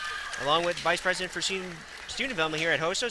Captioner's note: audience claps